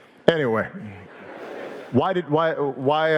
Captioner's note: audience laughing